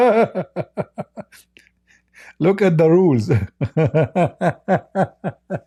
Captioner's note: Ketawa